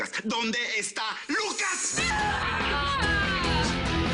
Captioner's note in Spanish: Gritando